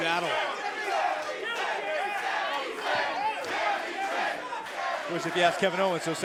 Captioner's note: crowd cheering